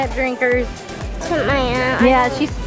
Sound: mumbles

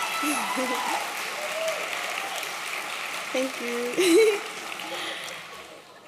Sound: applause

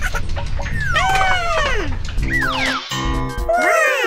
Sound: Gigglebot laughs; Gigglebot screams

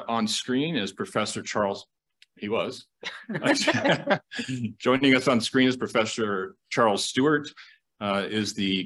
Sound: laughter

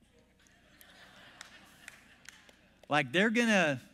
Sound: congregation laughs

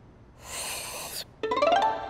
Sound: sips drink

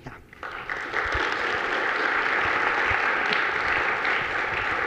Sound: audience applauding

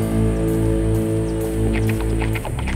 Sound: none

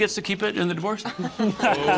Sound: greg laughs; siobhan laughs

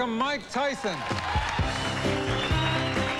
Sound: cheering

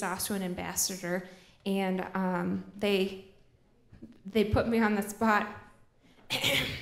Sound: ahem

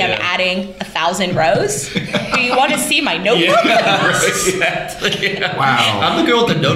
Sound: laughter

